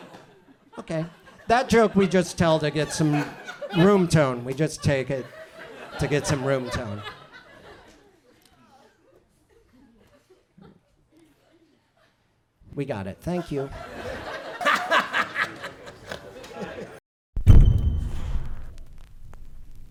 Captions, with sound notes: Okay, that joke we just tell to get some room tone. We just take it to get some room tone. We got it thank you. (audience chuckles)